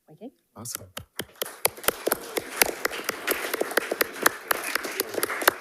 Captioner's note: attendees clapping